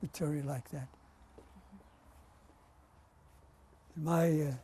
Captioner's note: pauses for 3 seconds